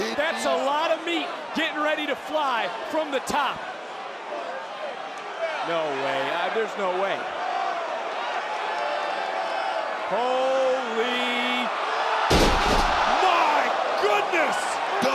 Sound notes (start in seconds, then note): 12.3 mat clanks